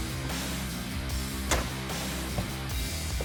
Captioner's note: thudding